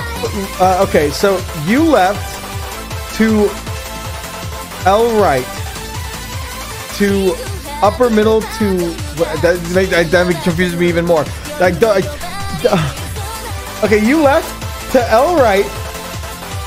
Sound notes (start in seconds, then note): 9.2 confused noises